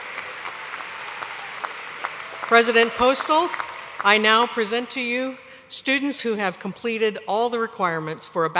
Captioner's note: cheers and applause